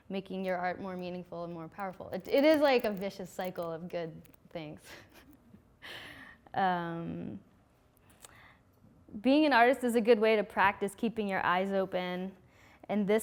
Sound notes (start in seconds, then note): none